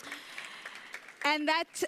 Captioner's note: audience applauds